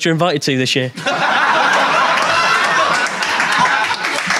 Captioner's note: audience laughing; audience applauding